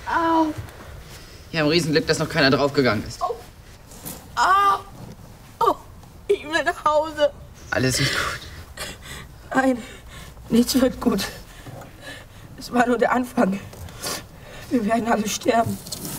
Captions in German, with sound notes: Wir haben Glück, dass noch keiner draufgegangen ist. (Schmerzenslaut) Ich will nach Hause. - Alles wird gut. Nein. Nichts wird gut. Das war nur der Anfang. Wir werden alle sterben.